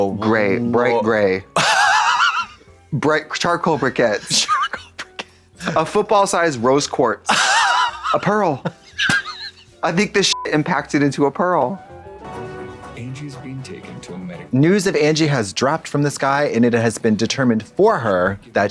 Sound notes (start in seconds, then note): 1.8 hisses; 7.4 hoots; 8.8 hand slaps; 10.3 beep; 11.8 playful music